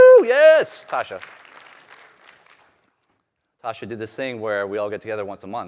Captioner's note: applause